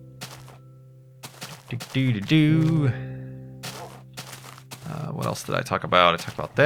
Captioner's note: humming